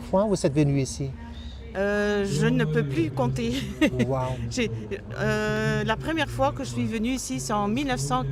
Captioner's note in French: rires